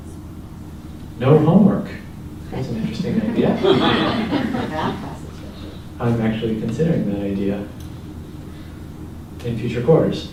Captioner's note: laugh